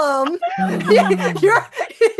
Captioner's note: laughter